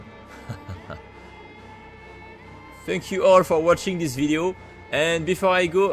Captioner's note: laughs